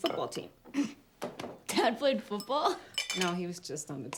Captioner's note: chuckles